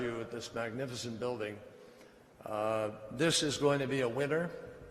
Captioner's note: none